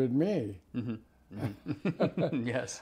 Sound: both laugh

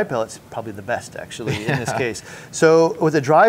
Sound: chuckles

